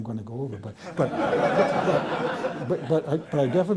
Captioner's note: laughter